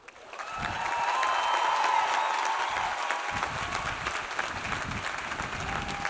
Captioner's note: audience applauding; audience cheering